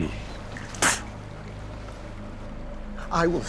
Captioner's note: spits